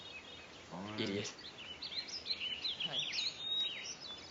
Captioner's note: mutters